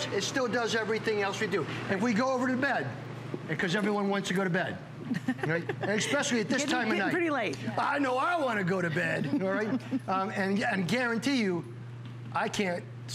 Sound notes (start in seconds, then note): 7.9 laughter